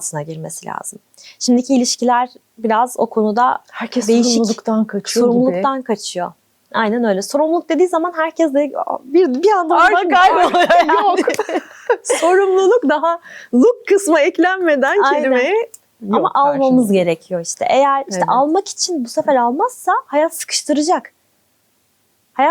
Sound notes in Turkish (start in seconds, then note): 10.1 kahkaha